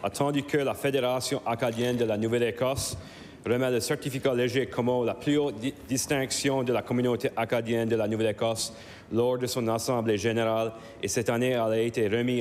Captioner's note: speaking in French